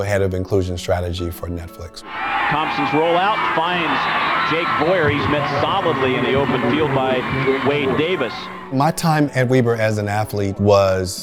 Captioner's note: crowd cheering, sports announcer describes play on TV